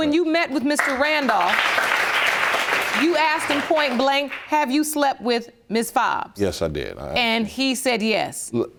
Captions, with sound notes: So when you met with Mr. Randolph... (AUDIENCE APPLAUDS) ...you asked him point blank, "Have you slept with Miss Fobbs?" Yes, I did. And he said yes?